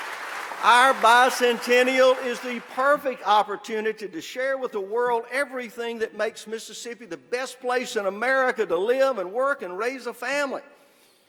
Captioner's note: applause